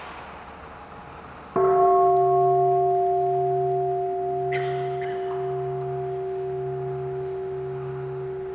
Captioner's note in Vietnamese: chuông